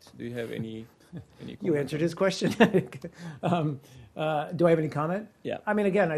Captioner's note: laughter